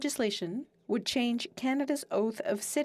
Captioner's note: speaking French